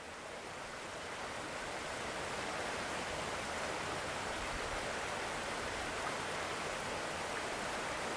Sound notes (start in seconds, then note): 4.5 creek water